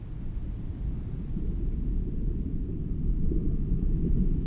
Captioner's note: low rumbling